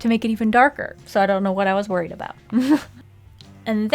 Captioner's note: laughs